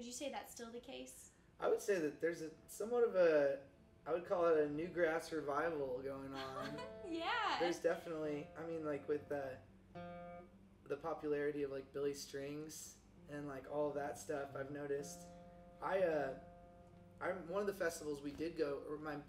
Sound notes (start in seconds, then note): 6.2 chuckles